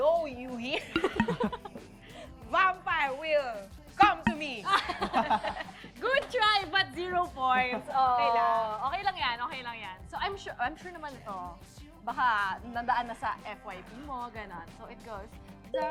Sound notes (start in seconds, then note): 4.6 laughter